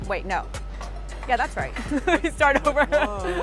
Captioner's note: laughs